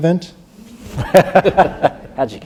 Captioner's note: laughter